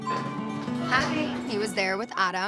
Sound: elevator dings

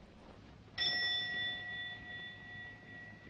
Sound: clock chimes repeatedly

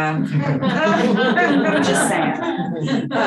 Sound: audience laughing

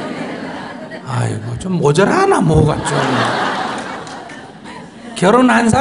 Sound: audience Laughter

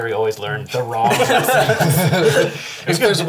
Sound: all laugh

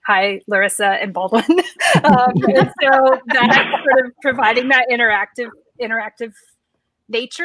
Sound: laughing

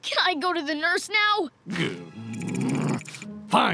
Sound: growling

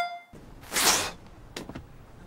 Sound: spit

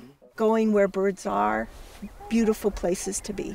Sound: voiceover

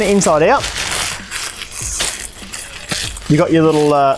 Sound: bag rustling

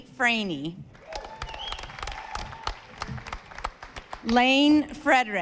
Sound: audience applauding

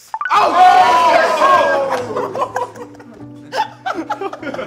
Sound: guys cheering; laughs

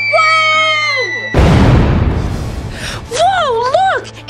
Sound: loud boom

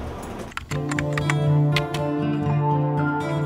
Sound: typewriter keys tap

